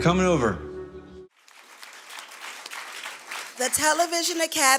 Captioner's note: applause